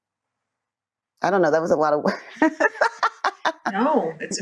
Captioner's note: laughs